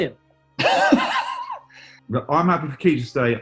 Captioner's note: laughter